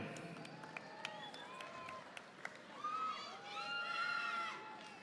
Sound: audience applauding

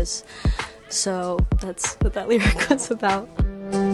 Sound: chuckles

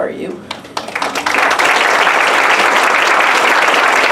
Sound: applause

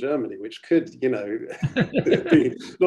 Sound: laughs

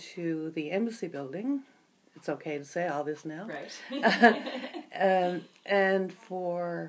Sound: laughs

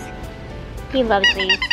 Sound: squeaky noise

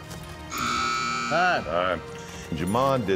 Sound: buzzer sound

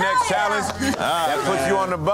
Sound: hands clapping

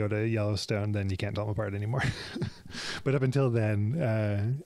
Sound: laughs

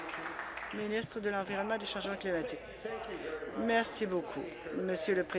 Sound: applause

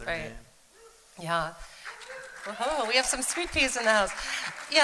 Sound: cheering

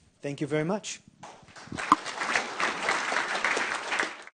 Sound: audience applauding

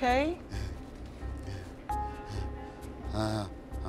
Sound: man breathing

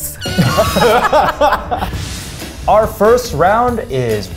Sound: laugh

